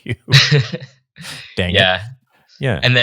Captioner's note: panelists laughing